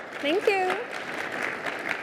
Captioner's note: applause